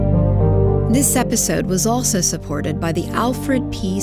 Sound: voiceover

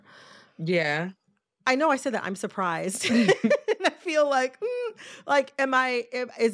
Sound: laughter

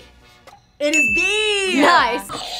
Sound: buzzer rings; bell rings; buzzer rings

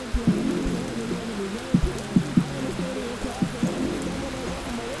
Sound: rain falls softly

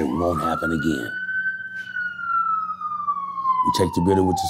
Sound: siren wailing

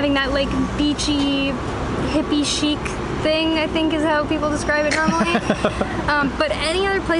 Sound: laughs

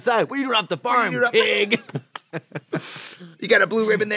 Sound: both laughing

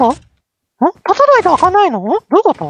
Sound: confused reax

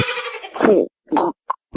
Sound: gulp

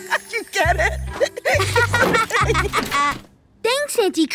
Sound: laughing

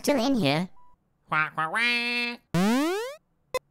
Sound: commanding squawk

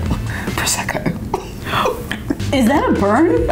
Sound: laughing

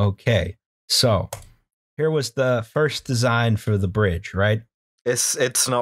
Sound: meaty mouse click

